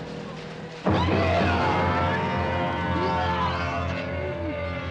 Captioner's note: screaming